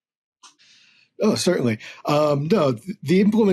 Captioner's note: chuckles